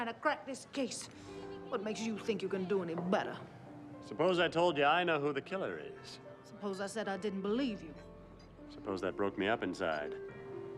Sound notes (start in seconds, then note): none